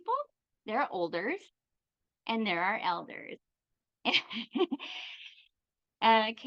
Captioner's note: chuckles